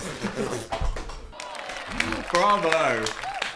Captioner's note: Phil clapping